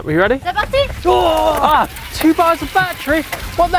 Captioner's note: all grunting